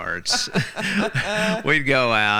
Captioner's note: laughing